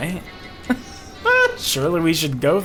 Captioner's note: laughs